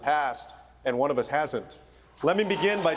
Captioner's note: cheering and applause